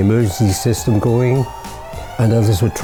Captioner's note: !! siren !!